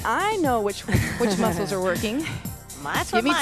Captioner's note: laughs